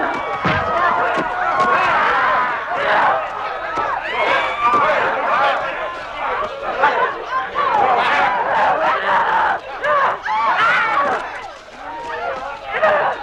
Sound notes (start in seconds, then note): 2.4 Hundra roaring